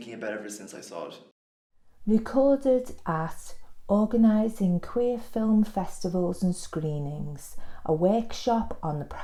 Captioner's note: voiceover